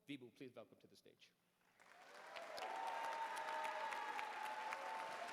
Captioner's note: applause